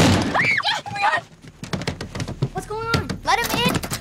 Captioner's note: Screams